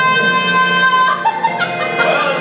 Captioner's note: laughs